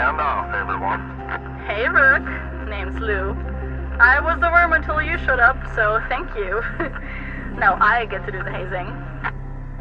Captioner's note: laughs